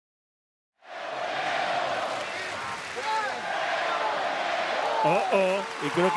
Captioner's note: applause